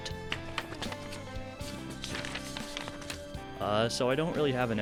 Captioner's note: in-house recorded paper shuffling SFX